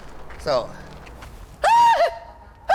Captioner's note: hooping